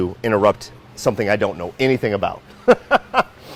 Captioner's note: laughs